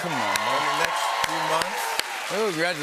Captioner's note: cheers and applause